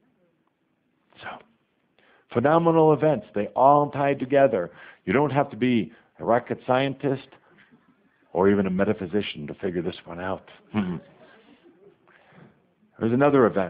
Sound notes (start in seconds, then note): 10.7 some laughter